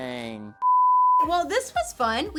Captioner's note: beep